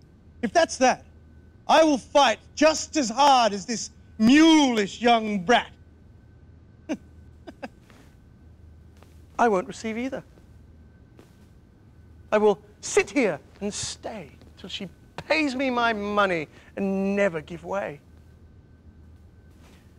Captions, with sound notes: If that's that, I will fight just as hard as this mulish young brat. [Chuckles confidently] I won't receive either. I will sit here and stay till she pays me my money and never give way.